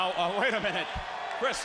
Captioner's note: crowd cheering